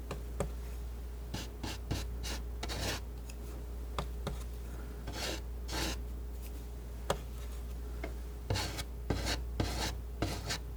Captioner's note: scratching